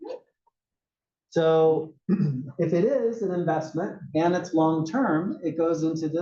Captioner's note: cough